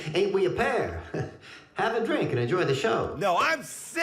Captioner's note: chuckles